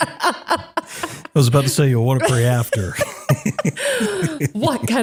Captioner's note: laugh